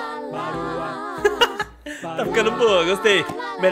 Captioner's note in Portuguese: risos